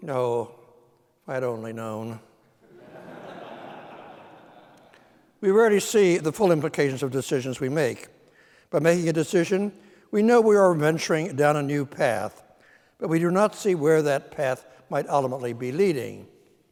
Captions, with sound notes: You know, if I'd only known know. (audience laughing) We already see the full implications of decisions we make, but making a decision, we know we are venturing down a new path, but we do not see where that path might ultimately be leading.